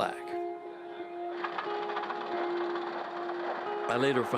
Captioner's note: engine puttering